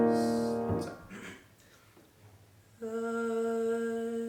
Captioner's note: coughs